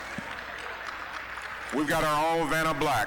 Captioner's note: applause